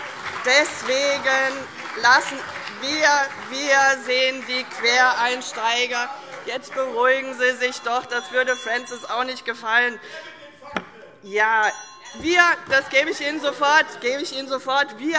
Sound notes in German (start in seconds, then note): 2.8 Unruhe SPD - Glockenzeichen